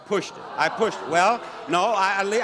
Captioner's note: audience boos